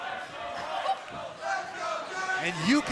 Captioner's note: fans chanting